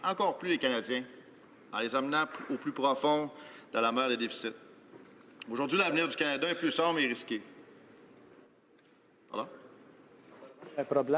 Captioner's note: speaking French